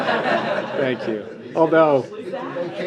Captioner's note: laughter